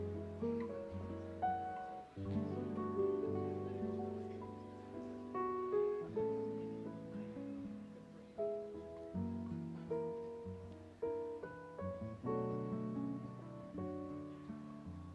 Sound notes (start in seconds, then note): 0.2 guests murmuring; 1.1 light piano music continues